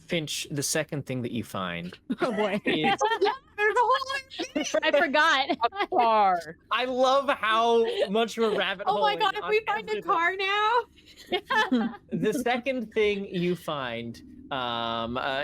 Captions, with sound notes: - Finch. The second thing that you find... - Oh boy. (laughter) - There's a whole other thing. - I forgot. - A car. - I love how much of a rabbit hole it is. - Oh my God. If we find a car now. - The second thing you find is under